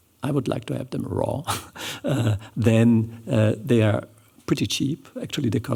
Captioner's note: chuckles